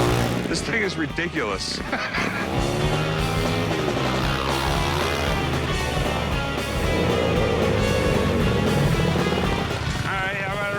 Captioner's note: laughs